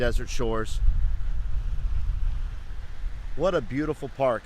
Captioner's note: water splashing distantly